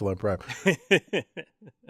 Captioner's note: laugh